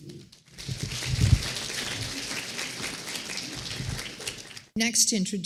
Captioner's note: applause